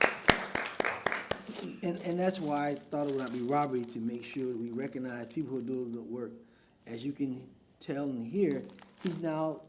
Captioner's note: applause